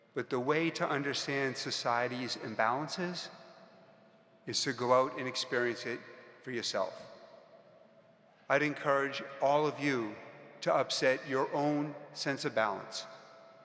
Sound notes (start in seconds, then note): none